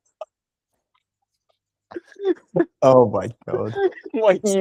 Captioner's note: laughing